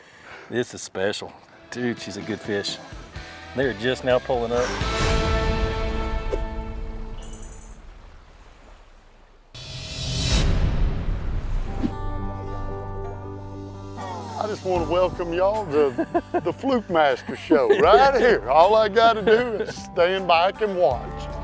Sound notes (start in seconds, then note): 2.7 moderate rock music; 4.8 scene whooshes; 9.6 rock pounding; 11.2 serene guitar music